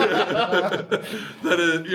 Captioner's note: laughing